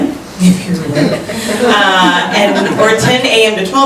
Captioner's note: chuckling